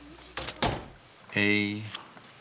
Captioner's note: door closes